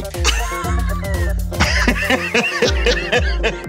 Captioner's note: laughter